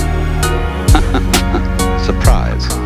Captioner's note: man laughs